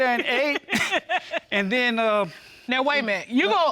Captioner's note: giggling